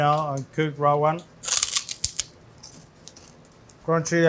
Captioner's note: teeth crunch